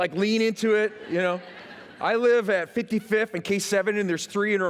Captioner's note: laughter